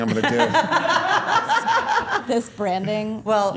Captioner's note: all laughing